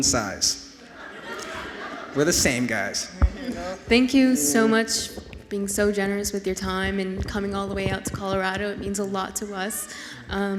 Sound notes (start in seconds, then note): 0.8 audience laughs